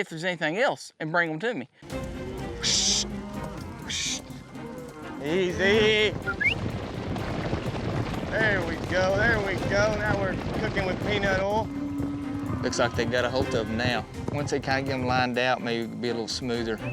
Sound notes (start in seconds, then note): 6.1 whistles, hoof beats; 9.3 hoof beats